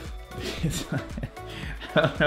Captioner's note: laughing